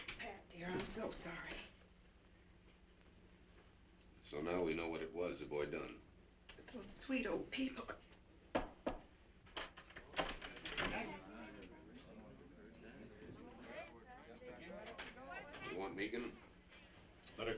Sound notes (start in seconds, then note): 8.5 door knocking